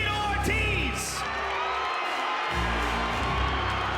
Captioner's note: cheering